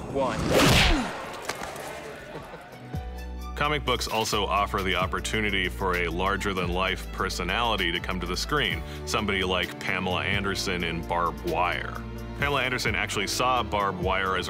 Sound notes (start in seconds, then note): 2.0 man laughs